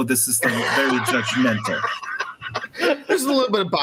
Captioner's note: all laugh